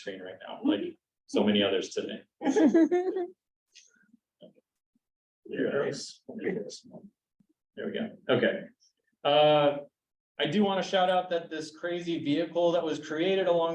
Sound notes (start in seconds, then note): 2.4 chuckling